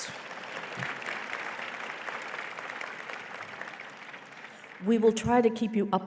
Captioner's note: applause